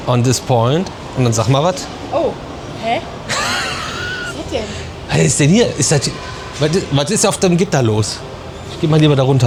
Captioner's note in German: gelächter